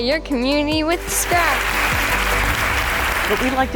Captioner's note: crowd applauding